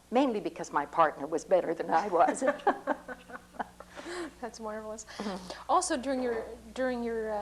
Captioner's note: laughter